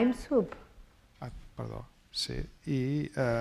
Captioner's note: speaking spanish